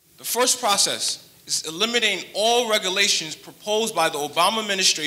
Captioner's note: none